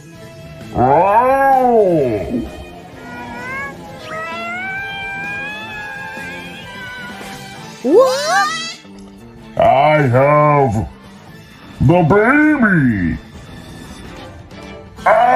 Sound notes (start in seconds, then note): 0.6 Dromp yells; 4.1 Komasaburo cries; 15.0 Dromp grunts